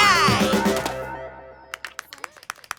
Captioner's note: applause